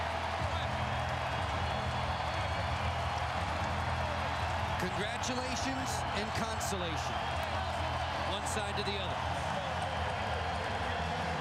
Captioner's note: cheers and applause